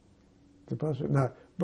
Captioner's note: mumbling